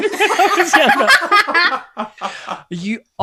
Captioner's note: laughter